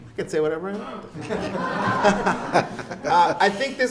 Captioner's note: audience laughs